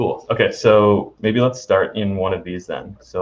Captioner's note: laughing